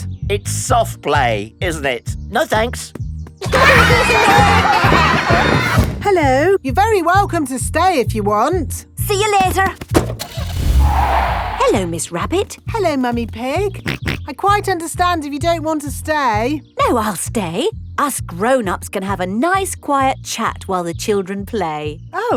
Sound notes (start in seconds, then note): 3.5 laughter; 9.9 car starting; 9.9 tires screeching; 14.1 snorts